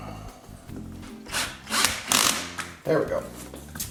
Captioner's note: drill turning